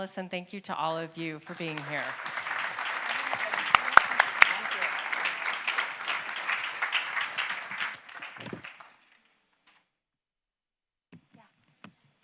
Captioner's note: applause